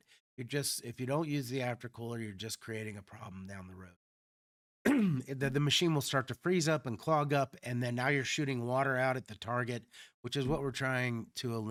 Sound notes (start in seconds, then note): 4.8 clears throat